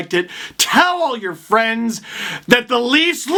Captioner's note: inhale